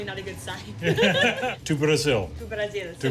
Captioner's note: laughter